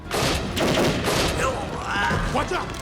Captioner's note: gunfire clattering; gangster groans